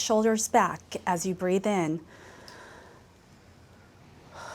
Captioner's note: exhales; inhales